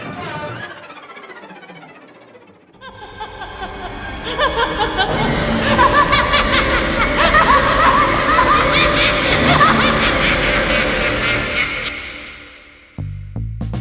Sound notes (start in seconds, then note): 2.8 evil laugh; 2.8 dramatic music